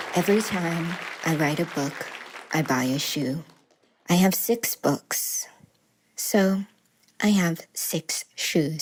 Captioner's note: applause